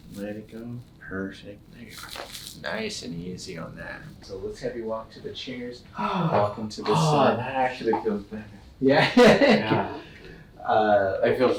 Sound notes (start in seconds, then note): 1.7 cracks; 6.8 sighs